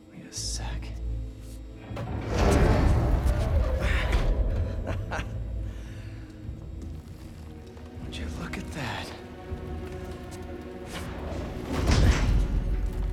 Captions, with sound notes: Wait a sec... (laugh) Would you look at that?